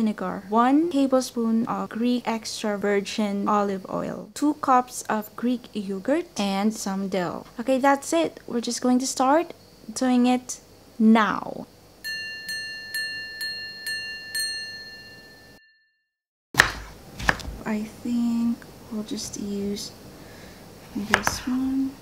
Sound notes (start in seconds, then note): 12.0 bell dings; 16.5 chopping sounds